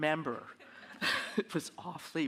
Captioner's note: audience laughing